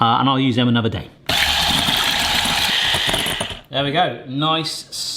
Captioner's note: whisk clattering